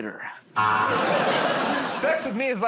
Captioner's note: buzzer